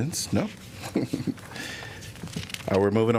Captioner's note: laughter